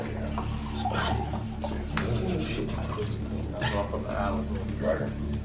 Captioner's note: guests chattering